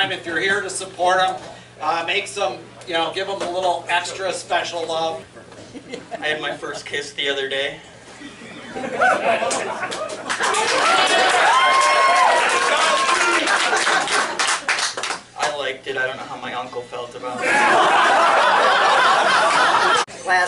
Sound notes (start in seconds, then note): 8.1 laughter; 17.4 raucous laughter